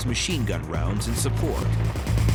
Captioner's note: gunfire